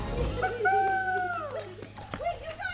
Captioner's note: group cheers